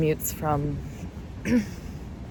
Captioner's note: clears throat